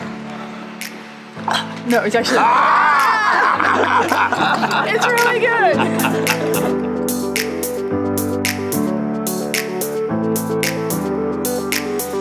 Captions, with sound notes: [coughs] No it's actually.... ahhhh! [laughing] it's really good!